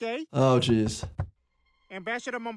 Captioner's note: knocking on door